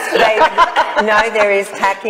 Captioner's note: group laughs cheerfully